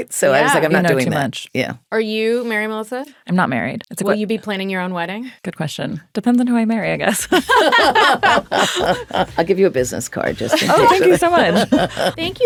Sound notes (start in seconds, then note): 7.2 all laughing